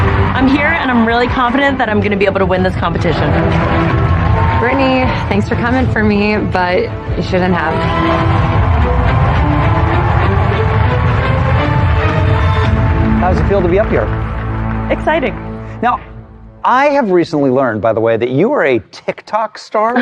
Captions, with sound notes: I'm here and really confident I'm gonna win this competition. Brittany, thanks for comin' for me, but you shouldn't have. (CHEERING AND APPLAUSE) (DRAMATIC MUSIC BUILDS) How r Ex. thth yre a?